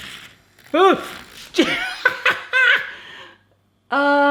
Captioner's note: laughs